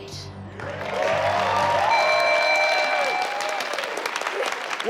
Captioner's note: audience applauding